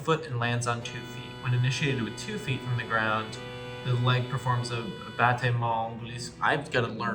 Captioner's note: horrible french pronunciation